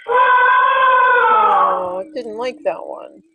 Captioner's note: voiceover; elephant trumpeting